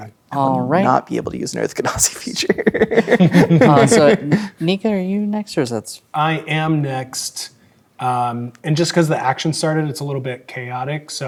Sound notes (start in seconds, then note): 2.3 laughing